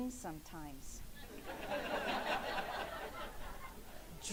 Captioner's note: laughing